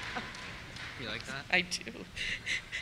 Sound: voiceover

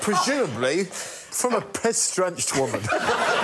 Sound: laughter

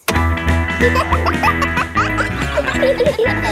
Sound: pop music playing; kids laughing

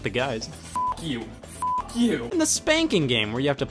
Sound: beep

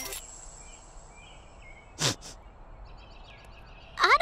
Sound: sniffles

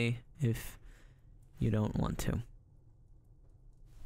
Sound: sigh

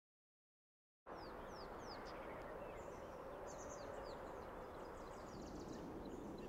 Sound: birds chirping

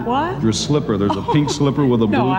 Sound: guest laughs

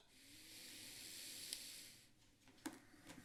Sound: breathing heavily

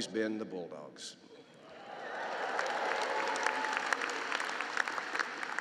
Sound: cheering and applause

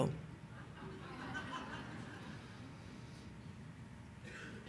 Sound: audience laughing

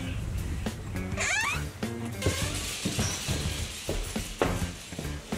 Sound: door creaking

